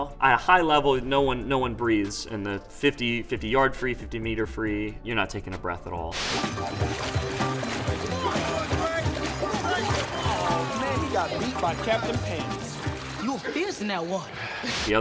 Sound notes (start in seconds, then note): 7.8 group cheering